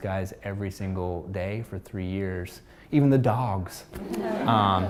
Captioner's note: laughter